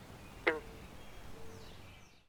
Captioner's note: frog croaking